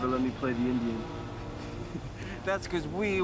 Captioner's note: chuckles